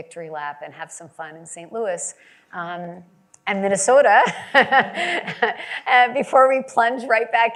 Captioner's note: laughs